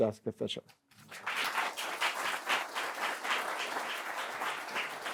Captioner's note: applause